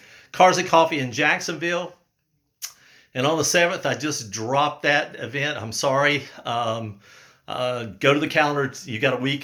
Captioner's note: um uh